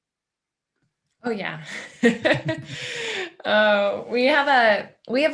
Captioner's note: laughing